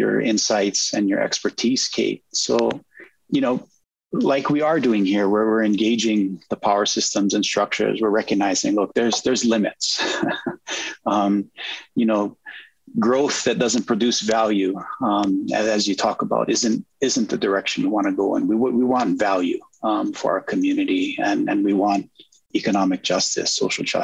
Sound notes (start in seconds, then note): 9.9 chuckles